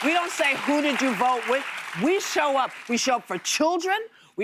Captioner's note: applause